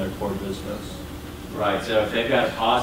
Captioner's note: voiceover